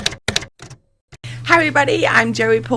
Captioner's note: typewriter keys clacking